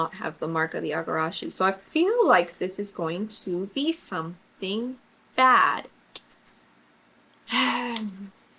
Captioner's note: sighs